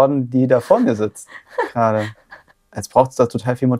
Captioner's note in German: lacht